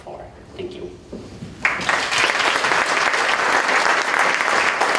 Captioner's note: applause